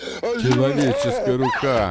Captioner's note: yelps